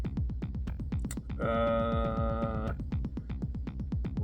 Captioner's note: prolonged thinking sounds